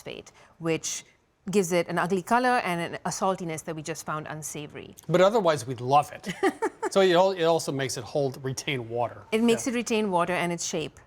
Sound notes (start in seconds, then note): 6.3 laughs